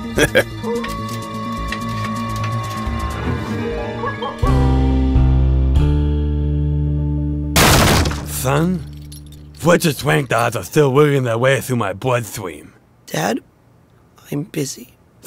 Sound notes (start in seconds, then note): 0.3 Fletch laughs; 7.6 door crunches